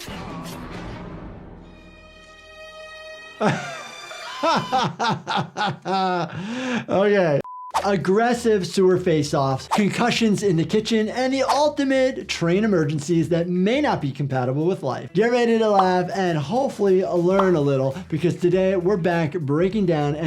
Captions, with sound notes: (dramatic music) (doctor laughing) - Okay. Aggressive sewer face offs, concussions in the kitchen, and the ultimate train emergencies that may not be compatible with life. Get ready to laugh and hopefully learn a little because today we're back breaking down